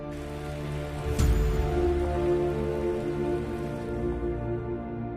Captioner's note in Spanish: Aplausos